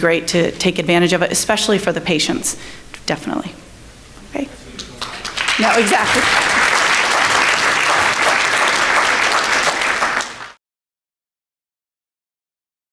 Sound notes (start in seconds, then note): 5.5 someone in audience speaking; 6.6 audience clapping